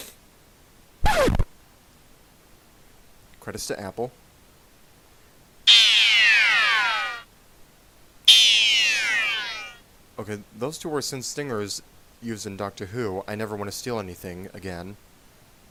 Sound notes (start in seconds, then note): 1.0 plays sample 48 "Record Player Scratching"